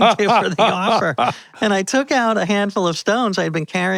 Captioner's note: both laughing